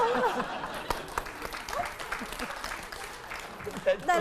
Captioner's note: laughter